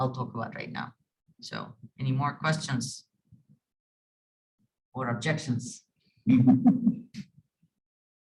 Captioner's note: laughing